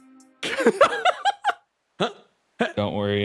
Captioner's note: laughs